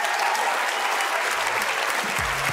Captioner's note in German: Jubel, Applaus